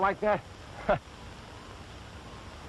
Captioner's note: laughs